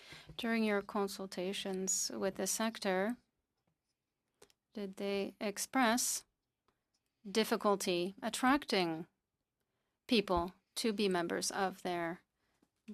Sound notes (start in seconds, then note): 10.7 speaking French